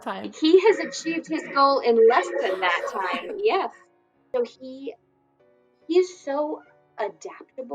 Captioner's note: laughs